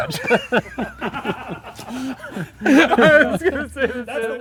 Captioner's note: laughter